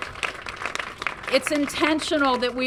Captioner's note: applause